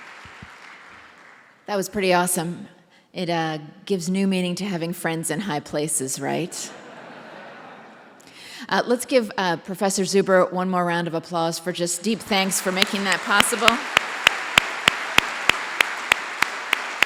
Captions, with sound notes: That was pretty awesome. It gives new meaning to having friends in high places, right? [LAUGHTER] Let's give Professor Zuber one more round of applause for just deep thanks for making that possible. [APPLAUSE]